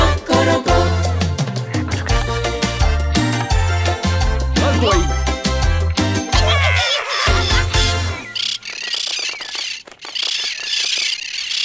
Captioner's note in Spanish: Susurro; Música alegre; Sonido de cotorras